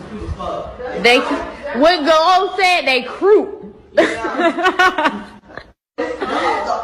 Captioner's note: laughs